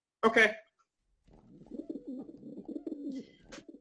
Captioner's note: the sounds of pigeons